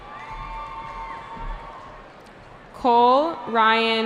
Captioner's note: cheering